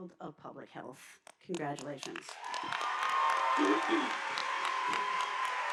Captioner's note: audience applauding